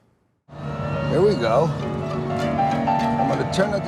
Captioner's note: siren wails